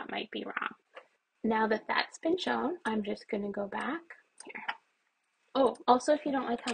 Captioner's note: quietly